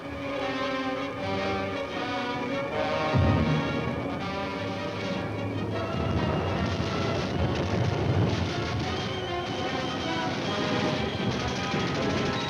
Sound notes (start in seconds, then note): 0.1 dramatic instrumental music; 7.1 gunfire